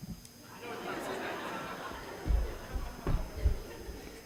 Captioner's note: audience laughs